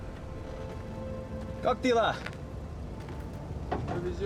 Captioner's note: speaking Slavic language